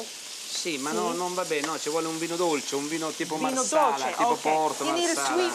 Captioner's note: speaking Italian